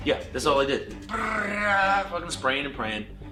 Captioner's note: imitates gunfire bursting